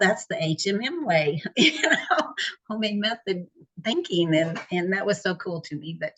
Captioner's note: laughs